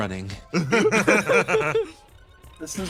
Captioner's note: laughs